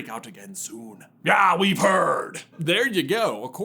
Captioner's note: sounding mighty pirate-esque